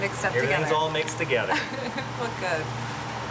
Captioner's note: laughing